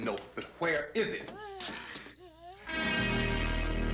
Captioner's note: groaning; insects chirping